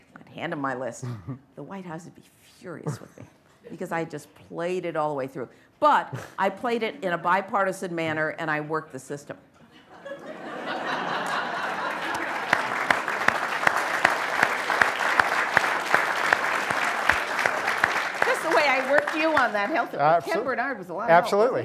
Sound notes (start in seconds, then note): 9.7 laughter; 11.9 applause